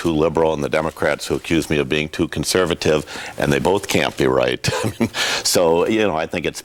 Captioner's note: laughs